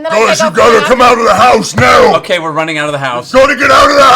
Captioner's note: yelling